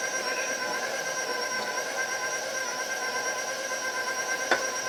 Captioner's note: mixer continues whirring